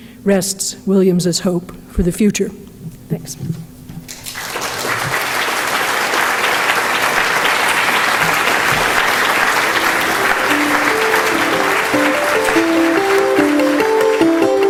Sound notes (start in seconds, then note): 4.5 audience applauding; 11.1 light, peaceful music